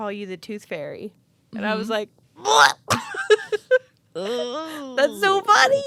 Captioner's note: laughing